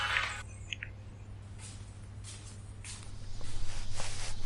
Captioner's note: corrie's footsteps